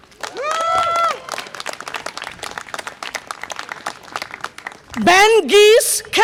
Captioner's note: audience applause and cheer